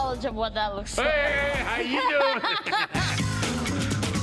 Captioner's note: all laughing; upbeat jazzy music